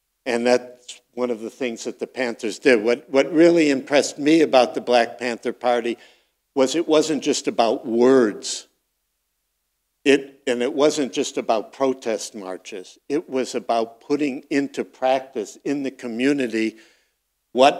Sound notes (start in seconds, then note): none